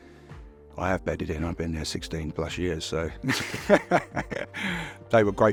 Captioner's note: laughs